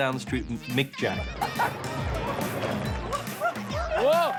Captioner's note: laughs